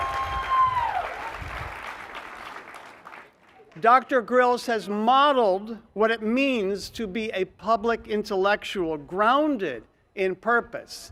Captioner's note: cheers and applause